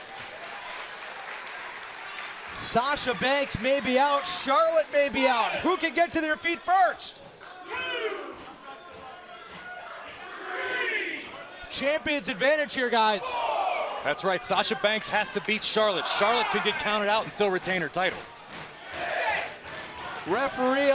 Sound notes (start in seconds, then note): 0.1 crowd cheering; 8.2 crowd chatter; 19.6 crowd chatter